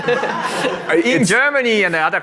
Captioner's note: audience laughs